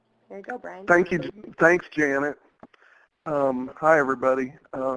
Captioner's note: voiceover